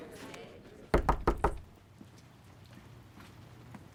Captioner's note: knocking on door